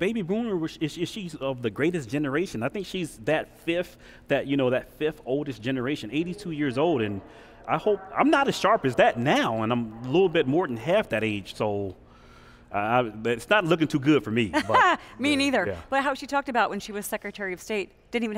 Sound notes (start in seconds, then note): 14.5 laughs